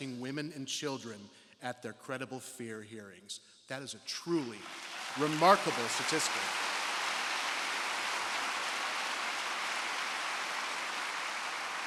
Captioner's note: applause